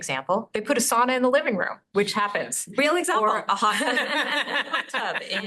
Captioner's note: laughing